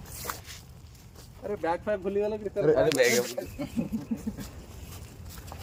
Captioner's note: chuckles